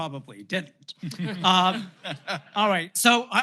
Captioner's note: laughter